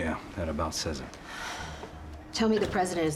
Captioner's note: sighs